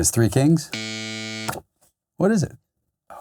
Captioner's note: loud buzzer